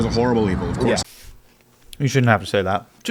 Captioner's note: chuckles